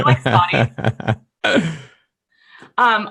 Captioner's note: laughing